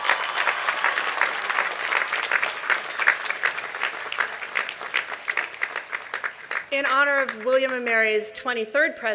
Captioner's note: applause